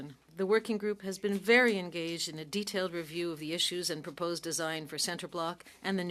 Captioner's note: speaking French